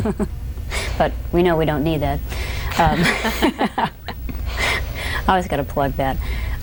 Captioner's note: laughs